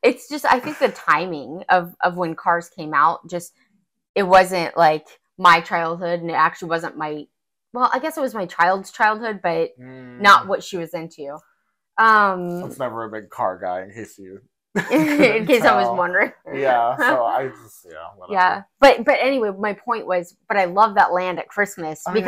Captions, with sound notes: - It's just, I think the timing of when Cars came out, just, it wasn't like my childhood and it actually wasn't my, well, I guess it was my child's childhood, but not what she was into. - So it's never a big Car guy issue. (laughing) - In case I was wondering. - Yeah, so I just, yeah. - Yeah, but anyway, my point was, but I love that land at Christmas